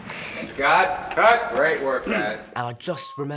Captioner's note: in normal voice